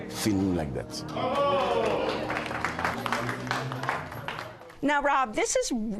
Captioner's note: cheers and applause